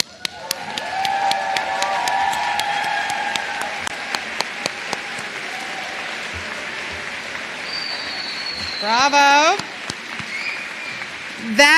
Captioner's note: applause